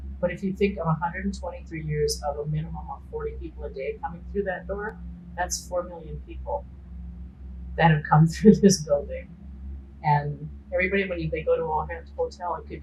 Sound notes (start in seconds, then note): 9.6 laughing